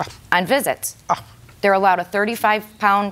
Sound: scoffs

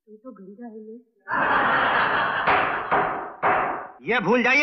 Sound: laughs; gavel Banging

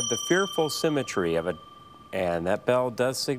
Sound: bell dings

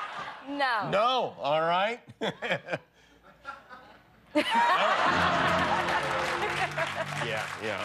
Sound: applause

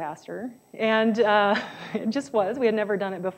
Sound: laughs

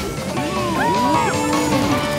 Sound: cheering

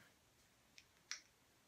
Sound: clicks

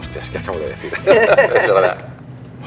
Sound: laughs

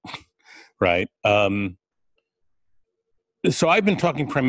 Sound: pause

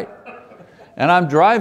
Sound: audience laughs

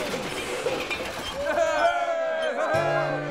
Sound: crowd cheering

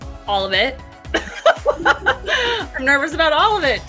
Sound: laughter

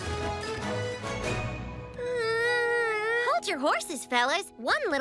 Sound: sighs

